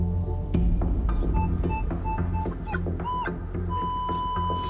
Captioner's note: beeping